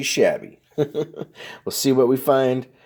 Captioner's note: laughing